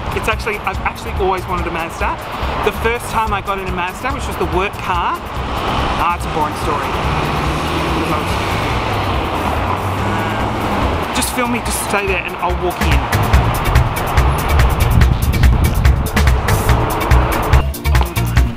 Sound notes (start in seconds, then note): 9.8 traffic roars; 14.2 upbeat electro music